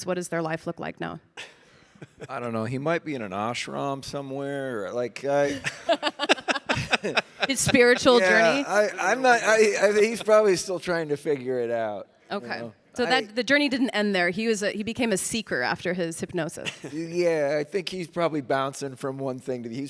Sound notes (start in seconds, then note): 5.3 hosts laughing